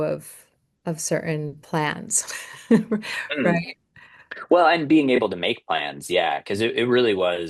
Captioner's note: laughter